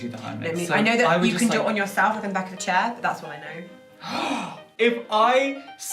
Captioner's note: gasp